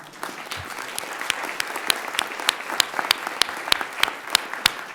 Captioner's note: everyone applauds